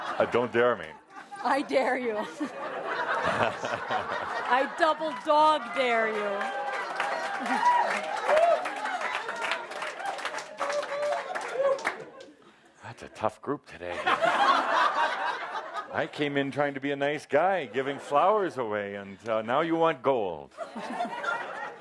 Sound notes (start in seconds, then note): 0.0 laughter; 2.1 more laughter; 7.1 cheering and applause; 20.5 laughter